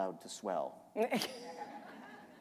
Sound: laughter

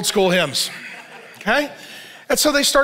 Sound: congregation laughs

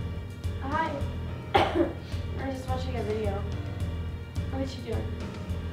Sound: coughs

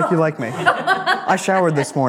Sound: people laugh

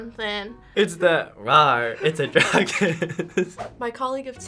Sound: laughs

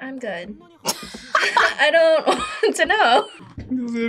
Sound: laughs

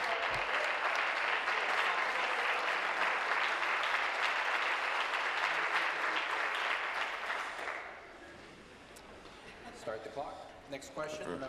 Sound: applause

